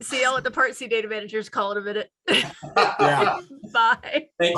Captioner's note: laughs